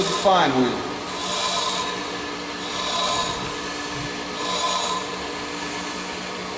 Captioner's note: metal buzzing against grinder